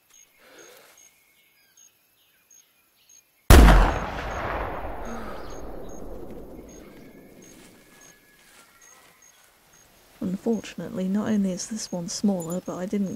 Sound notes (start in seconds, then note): 3.5 rifle shot